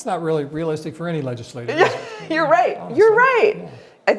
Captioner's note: laughs